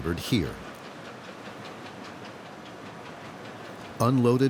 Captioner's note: motor rumbling